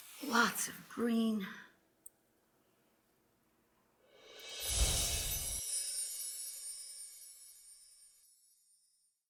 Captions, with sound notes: Lots of green. (chimes ring)